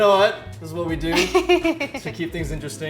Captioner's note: Megan laughs